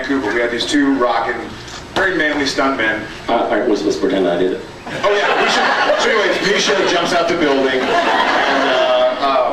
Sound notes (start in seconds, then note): 7.5 laughs